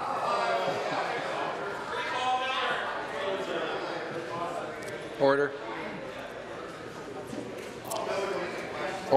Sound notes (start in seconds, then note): 2.4 conversation din